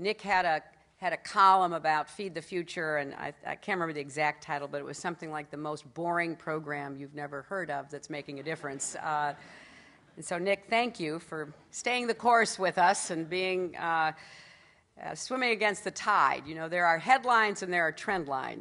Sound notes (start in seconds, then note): 9.6 laughter